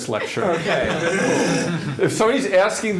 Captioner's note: laughter